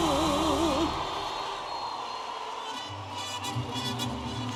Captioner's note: audience applauding and cheering; upbeat music